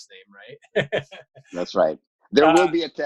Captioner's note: laughing